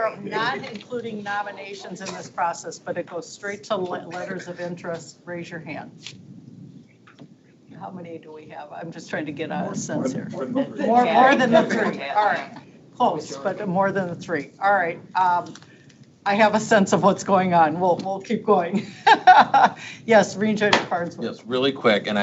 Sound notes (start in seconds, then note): 19.0 laughs